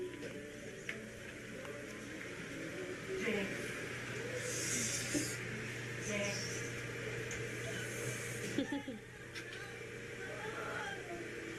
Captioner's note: background talking